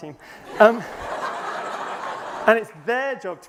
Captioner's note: laughter